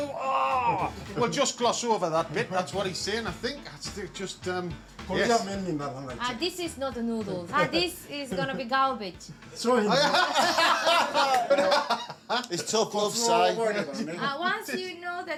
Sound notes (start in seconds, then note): 6.2 speaks Japanese; 12.6 laughter